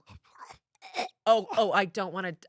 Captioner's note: gags